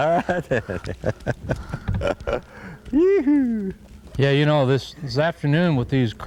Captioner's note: laughter